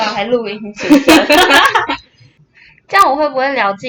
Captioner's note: laughter